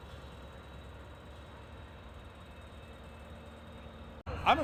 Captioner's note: plane engine roaring